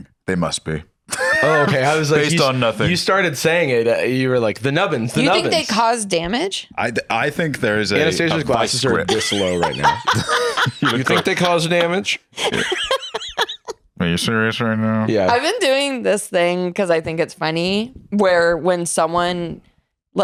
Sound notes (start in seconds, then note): 12.3 laughs